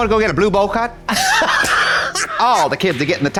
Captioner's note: Katya cackles